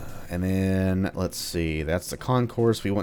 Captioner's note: none